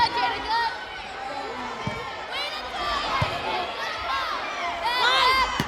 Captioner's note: players yelling